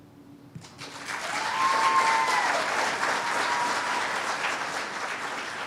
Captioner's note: cheers and applause